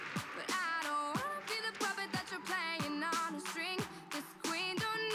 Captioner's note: applause